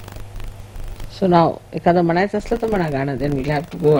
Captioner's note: hindi: If you want to sing anything?